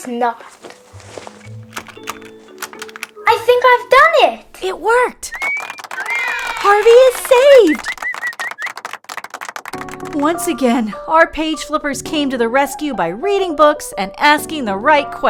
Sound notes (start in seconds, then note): 5.4 cheers